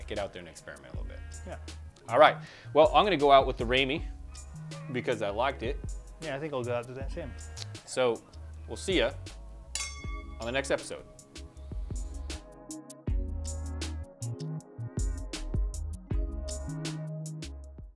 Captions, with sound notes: Get out there and experiment a little bit. All right. Well I'm gonna go out with the Ramey because I liked it. - Yeah, I think I'll go out to that, same. - So, we'll see ya... (glasses clink) On the next episode. (light ambient music)